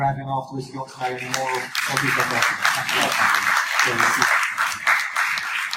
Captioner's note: audience applause